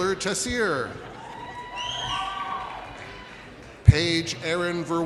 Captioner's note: audience cheers